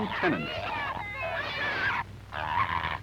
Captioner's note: pigs squealing; pigs grunting